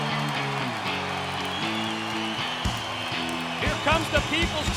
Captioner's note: crowd cheering